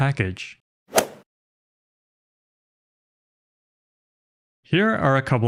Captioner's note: golf ball hit sound effect